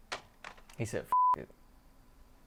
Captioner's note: beeping